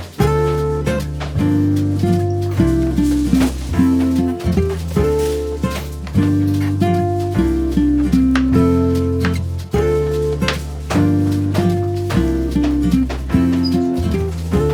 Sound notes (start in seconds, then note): 7.9 relaxing music continues; 7.9 students continue murmuring